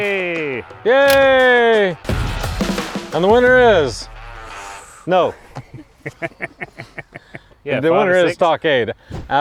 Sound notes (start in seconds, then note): 5.5 chuckling